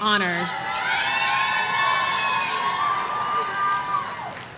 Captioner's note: audience cheering